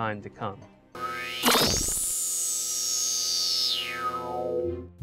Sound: sound Effects

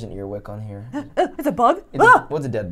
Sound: shouts

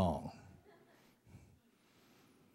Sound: laughter

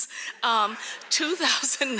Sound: audience laughing

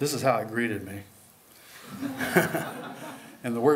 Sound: laughter

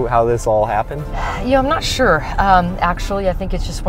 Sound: sighs

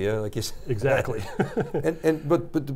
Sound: chuckles

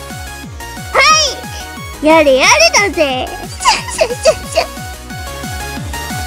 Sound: Imitating Fuuma Kotaro

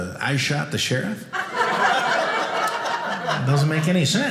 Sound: audience laughing

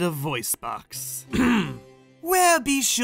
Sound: clears throat

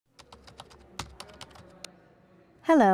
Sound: typing

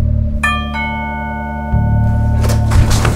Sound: doorbell rings

